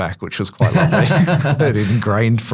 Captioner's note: laughs